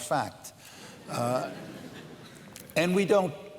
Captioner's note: laughter